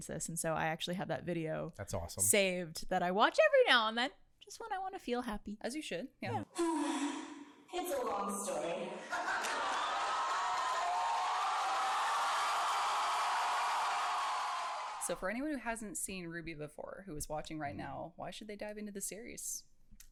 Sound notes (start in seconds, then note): 6.3 sighs; 9.0 crowd laughs and cheers